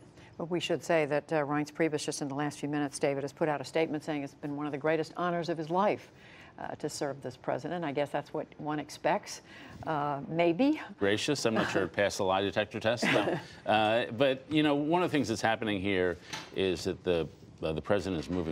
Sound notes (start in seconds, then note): 13.0 laughter